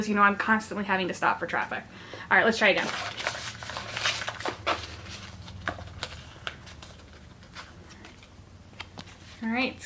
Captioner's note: shuffling noise